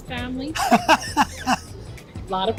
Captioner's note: laughs